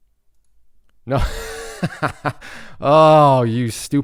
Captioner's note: laughs